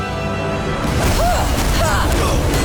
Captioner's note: grunting